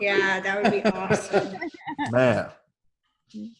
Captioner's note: laughs